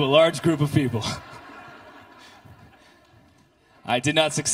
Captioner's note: congregation laughter